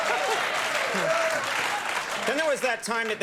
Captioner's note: audience clapping